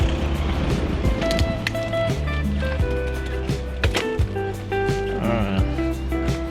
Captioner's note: wind Blowing